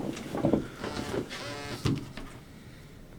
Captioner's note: phone vibrates